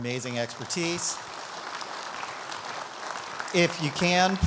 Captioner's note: audience applauding